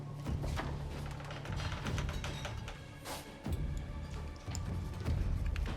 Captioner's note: tense music; door creaks open, closed